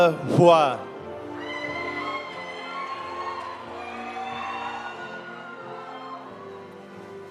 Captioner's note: audience cheering; audience applauding